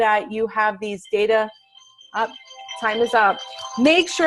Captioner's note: timer ringing